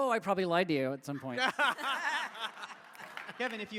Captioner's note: laughter